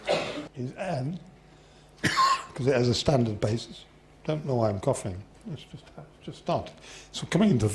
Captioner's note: cough